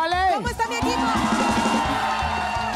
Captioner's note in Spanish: Grita